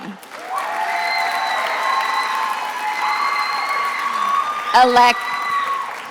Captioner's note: attendees applauding and cheering